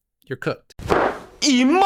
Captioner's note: thud